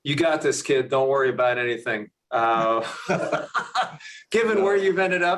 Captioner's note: laughs